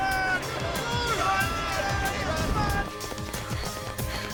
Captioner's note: men shout